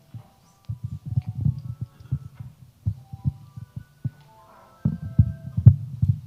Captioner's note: attendees chattering faintly